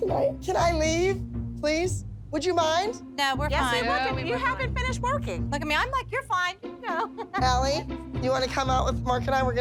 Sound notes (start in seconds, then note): 6.8 laughs